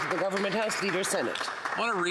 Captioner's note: applause